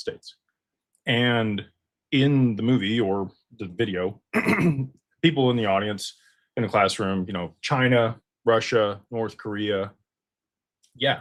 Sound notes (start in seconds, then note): 4.3 clears throat